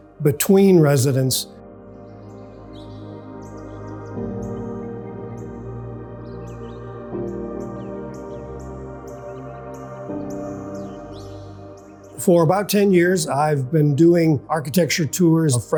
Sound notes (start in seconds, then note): 2.0 birds chirping; 2.5 serene music